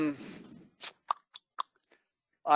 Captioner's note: stuttering; clicks tongue